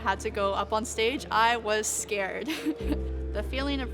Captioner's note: laughs